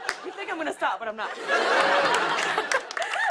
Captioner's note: laughter